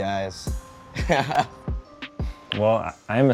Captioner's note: laughs